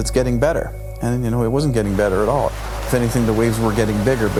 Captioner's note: crashing waves